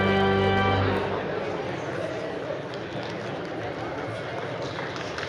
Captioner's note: crowd chattering